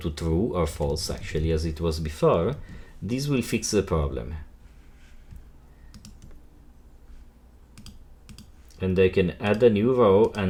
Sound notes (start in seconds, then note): 5.9 mouse button clicking